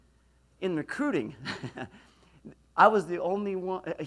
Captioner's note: laughs